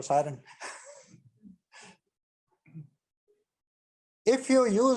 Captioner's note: chuckles